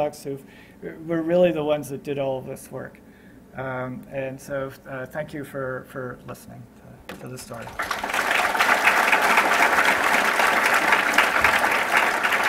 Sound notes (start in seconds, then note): 7.4 applause